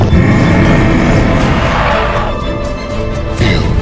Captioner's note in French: grognements